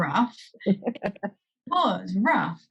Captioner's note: laughs